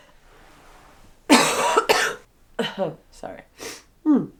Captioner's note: coughing